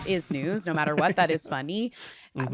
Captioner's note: chuckles